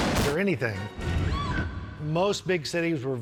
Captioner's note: woman shrieks